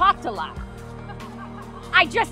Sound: audience laughs

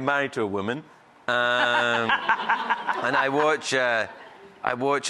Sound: laughs

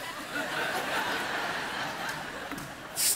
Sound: congregation laughing

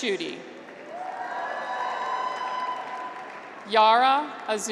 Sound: graduates cheer

